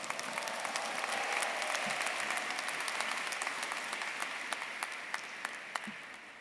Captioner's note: everyone cheering and applauding